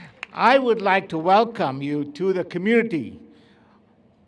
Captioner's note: laughs